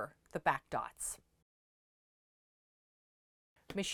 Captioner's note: no Sound Present